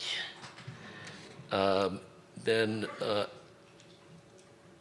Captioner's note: stutters